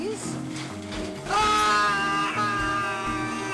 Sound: screaming

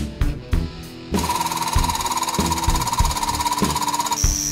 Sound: whirring

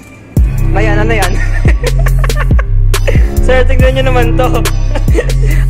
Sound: laugh

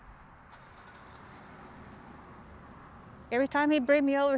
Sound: car engine starting

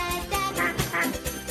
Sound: duck quacks

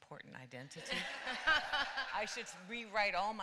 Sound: laughter

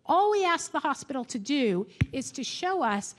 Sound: none

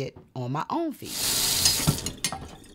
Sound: running water

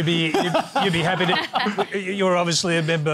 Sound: laughter

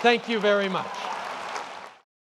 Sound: applause & cheers

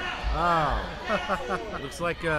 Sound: laughing

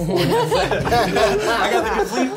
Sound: others laugh

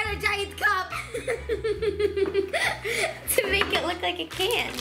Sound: giggles

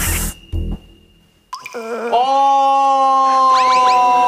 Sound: crying

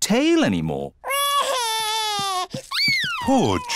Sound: crying

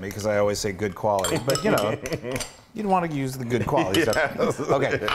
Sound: laugh

